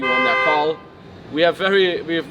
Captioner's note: car honks